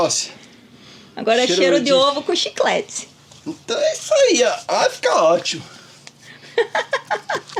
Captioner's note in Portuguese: risadas